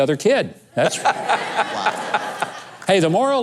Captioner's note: laughing